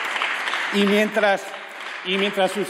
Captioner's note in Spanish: Aplausos